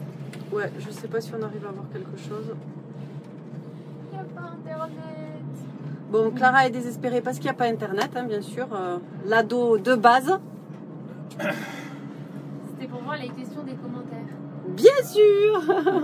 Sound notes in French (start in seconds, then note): 15.5 Rires